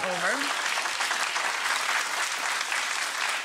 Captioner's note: applause